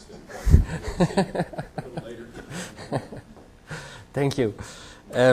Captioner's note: laughter